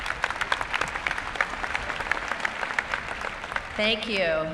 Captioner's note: cheering and applause